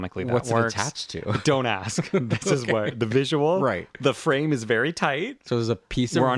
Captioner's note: laugh